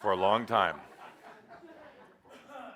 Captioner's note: laughter